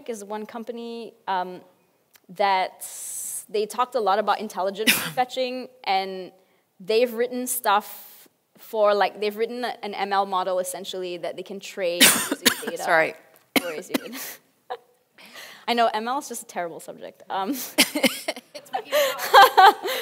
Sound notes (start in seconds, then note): 12.0 coughs; 17.7 both laugh